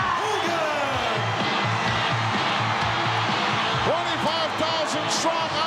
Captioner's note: audience cheering; upbeat rock music